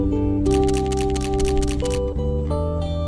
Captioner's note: camera shutter clicking